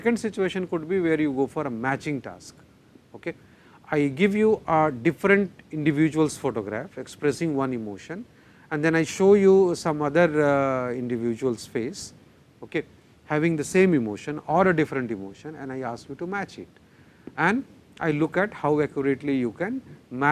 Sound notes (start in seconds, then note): 9.3 static